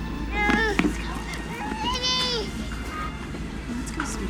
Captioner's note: straining